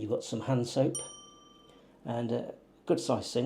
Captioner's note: bell chimes